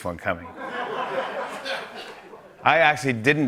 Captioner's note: laughter